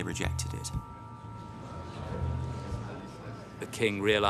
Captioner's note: somber music; people murmuring